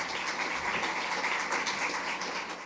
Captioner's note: applause